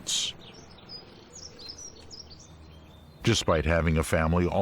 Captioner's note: birds chirping